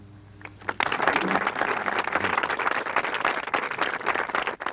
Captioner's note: audience applauds